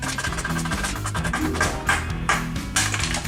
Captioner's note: star and harp transition